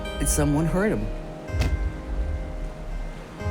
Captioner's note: thumping